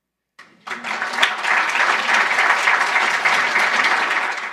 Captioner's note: applause